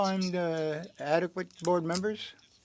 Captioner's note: speaking French